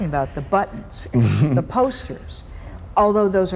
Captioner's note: chuckles